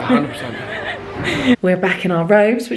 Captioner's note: laughs